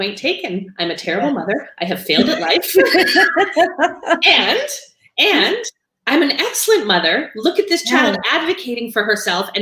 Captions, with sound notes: Point taken. I'm a terrible mother. I have failed in life. (laughing) And I'm an excellent mother. Look at this child advocating for herself